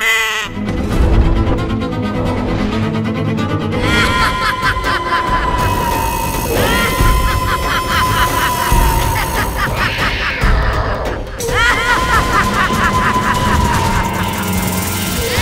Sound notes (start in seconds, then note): 3.8 scary voice